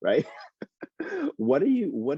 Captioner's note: laughs